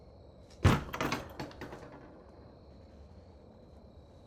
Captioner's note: door thudding